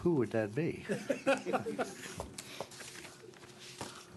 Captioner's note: laughter